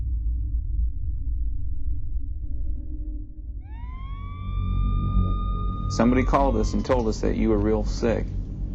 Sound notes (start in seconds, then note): 0.3 tense music; 3.6 siren wails